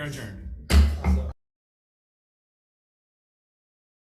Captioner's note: gavel bangs